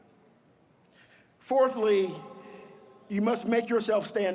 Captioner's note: none